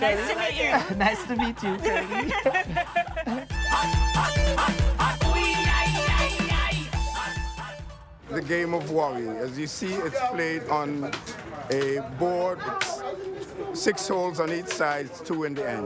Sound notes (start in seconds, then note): 2.0 laughter